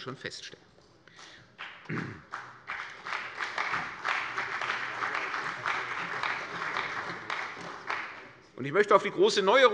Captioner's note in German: Beifall bei der CDU und dem BÜNDNIS 90/DIE GRÜNEN